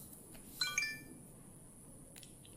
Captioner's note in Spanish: Pitido